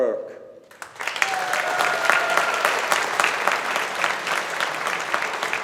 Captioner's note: audience applauding